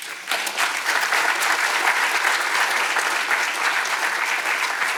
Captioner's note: attendees clapping